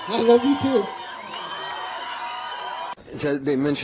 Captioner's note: cheering